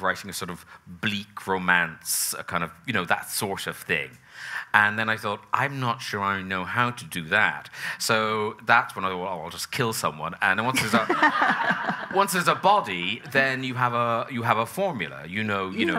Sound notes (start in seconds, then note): 10.8 laughing; 10.8 audience laughing